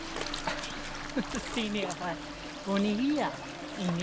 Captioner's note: speaking Algonquian